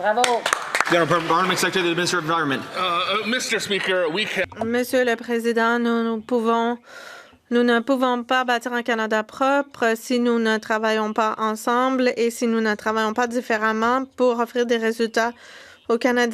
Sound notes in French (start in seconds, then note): 5.5 voix de l'interprète